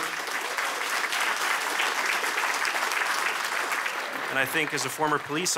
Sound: applause

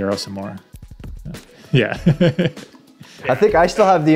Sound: laughs

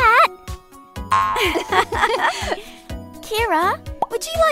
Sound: both girls laugh

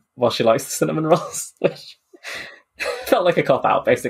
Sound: laughing

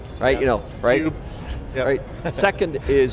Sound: laughs

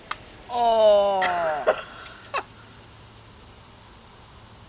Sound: laughing

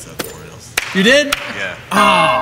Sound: voice-over

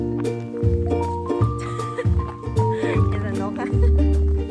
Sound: laughing

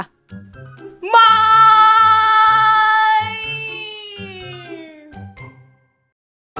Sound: Q's wailing cry

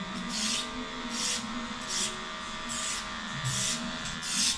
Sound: razor scraping

